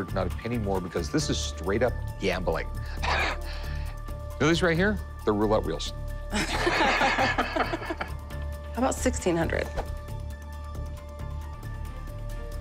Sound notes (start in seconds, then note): 2.3 chuckles; 6.3 laughter